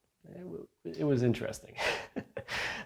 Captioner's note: chuckles